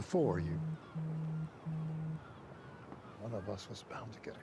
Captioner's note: Tara's watch vibrating